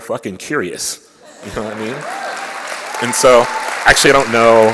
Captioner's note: applause